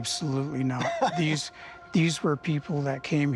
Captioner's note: laughs